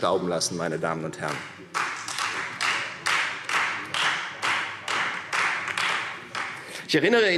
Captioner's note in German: Beifall Freie Demokraten